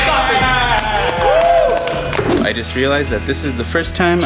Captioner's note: all cheering